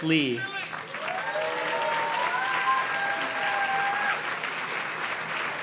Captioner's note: audience cheers and claps